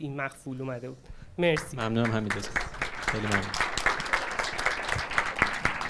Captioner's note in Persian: تشویق